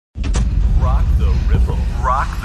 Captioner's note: low rumbling